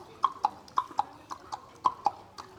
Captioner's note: clip clopping noises